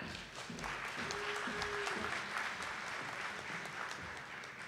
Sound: audience applauding

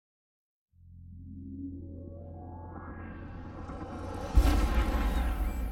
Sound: dramatic digital sounds

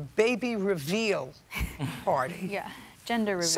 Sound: laughter

